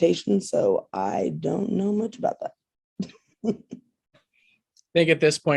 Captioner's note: chuckles